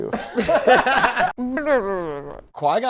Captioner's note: laughter; blubbery sound